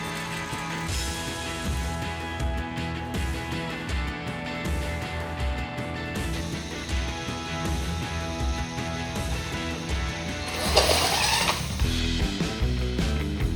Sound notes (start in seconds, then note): 10.9 vrrrrrrrrrrrrrrrr